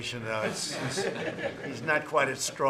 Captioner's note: laughter